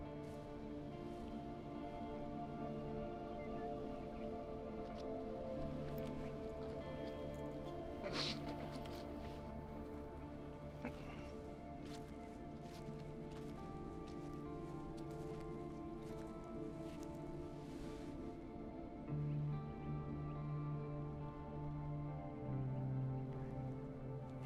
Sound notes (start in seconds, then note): 0.2 somber music; 8.0 sniffling; 11.2 slow footsteps; 15.6 somber music